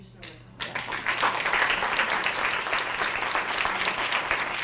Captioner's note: audience applause